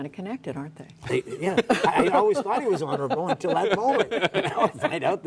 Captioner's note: laughter